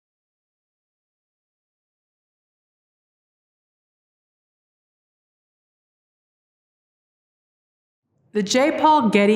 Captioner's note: no speech